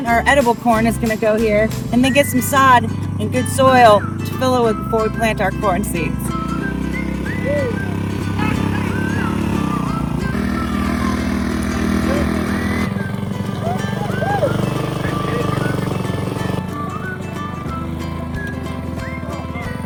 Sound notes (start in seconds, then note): 6.7 engine roaring; 6.7 light whistling music